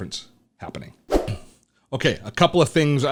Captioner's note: air whooshes